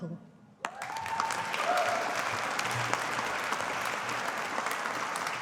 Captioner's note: audience applauding